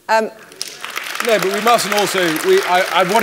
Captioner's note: applause